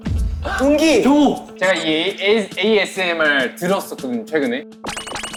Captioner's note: confident